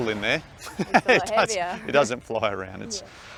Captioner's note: laughs